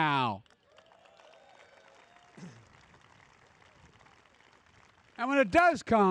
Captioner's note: applause